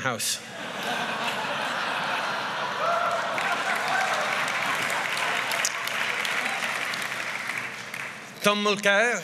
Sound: laughter

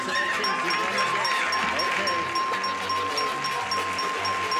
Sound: dinging

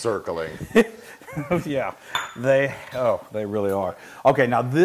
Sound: laugh

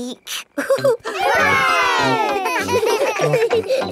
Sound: laughing; chuckles

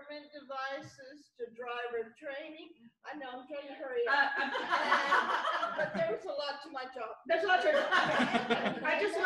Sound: laughter

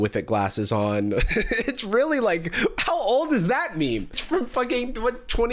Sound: laughs

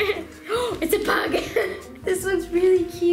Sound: gasping; laughing

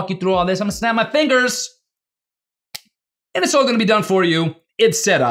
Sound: fingers snap

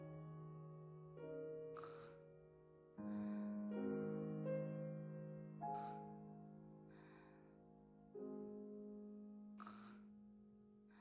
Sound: bird snoring

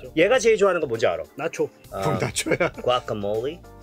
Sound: speaking in Korean

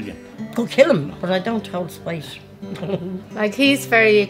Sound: giggles

